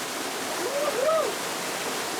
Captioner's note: yells; rushing water